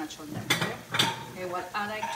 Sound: plates clanging drowns out speech

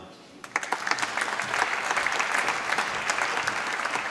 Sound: applause

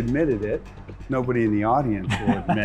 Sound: laughs

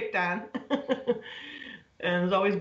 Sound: laughter

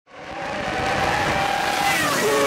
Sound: engine sounds

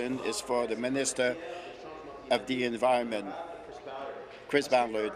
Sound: speaking in French

